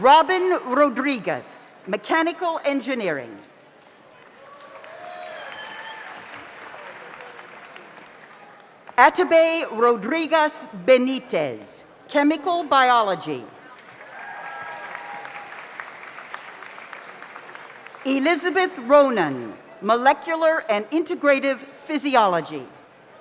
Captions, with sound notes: Robin Rodriguez, Mechanical Engineering. (audience applauds) (audience cheers) Atobe Rodriguez-Benitez, Chemical Biology. (audience applauds) (audience cheers) Elizabeth Ronan, Molecular and Integrative Physiology.